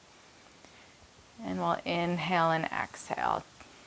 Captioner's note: none